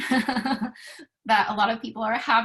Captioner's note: laughter